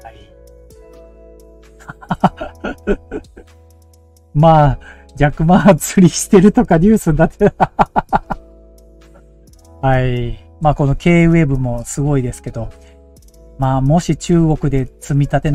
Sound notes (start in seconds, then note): 1.8 laughs